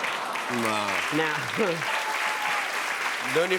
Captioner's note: cheers and applause